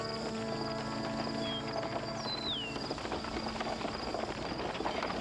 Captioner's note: horses clopping